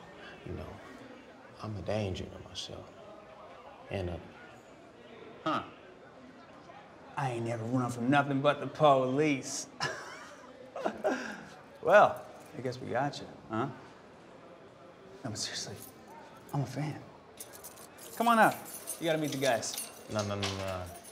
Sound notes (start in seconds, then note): 9.8 laughs; 17.4 keys jingle